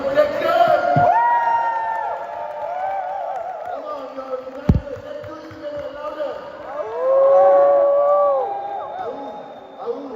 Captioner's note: 박수 갈채